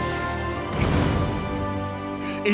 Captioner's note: thud